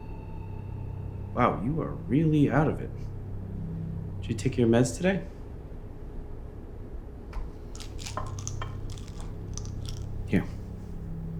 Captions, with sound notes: Wow, you are really out of it. Did you take your meds today? (Sound of pills rattling) Here.